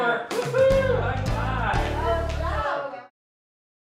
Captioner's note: cheering